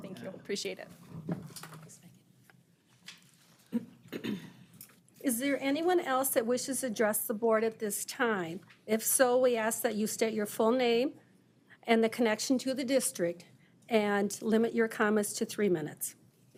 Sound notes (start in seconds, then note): 3.7 clearing throat